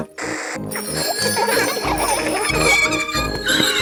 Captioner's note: giggling and ringing bells; tires screech